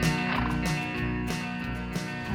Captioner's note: horse blusters